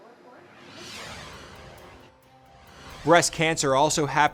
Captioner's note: logo whooshing